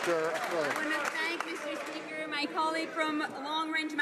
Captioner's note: some Applause